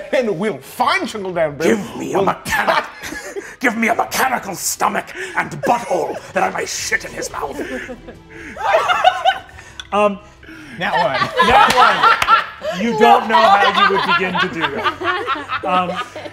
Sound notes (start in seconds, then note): 8.8 laughs